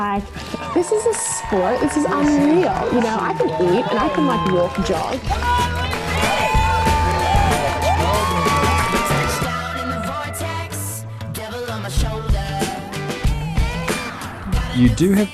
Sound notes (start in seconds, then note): 6.1 crowd cheering